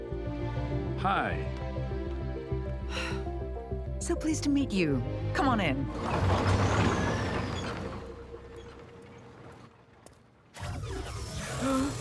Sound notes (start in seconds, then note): 7.1 truck rattles